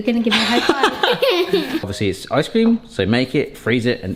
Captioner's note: laughing